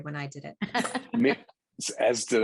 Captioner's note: laughing